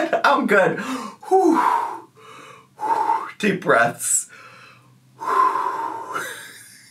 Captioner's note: laughs